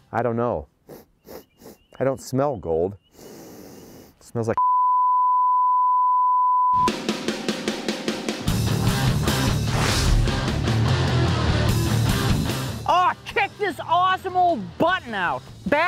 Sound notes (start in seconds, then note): 4.6 beep; 7.5 rock music